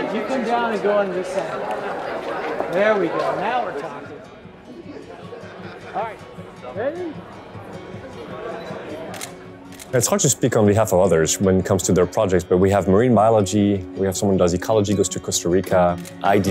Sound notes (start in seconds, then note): 4.9 camera shutter sound; 4.9 light music